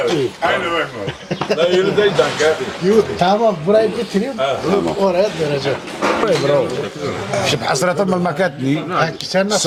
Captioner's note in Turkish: kahkaha